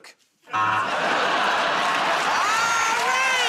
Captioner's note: buzzer